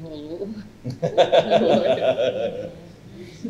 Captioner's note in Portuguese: risos coletivos